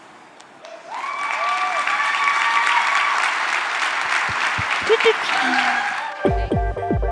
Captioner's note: cheering and applause